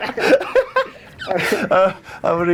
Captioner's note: laughing